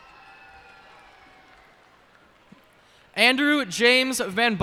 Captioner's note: cheers and applause